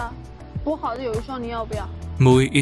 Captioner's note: in Mandarin